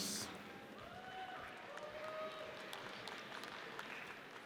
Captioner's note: audience cheers